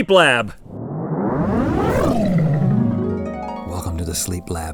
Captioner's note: whooshing sound effect; harp glissando; whispering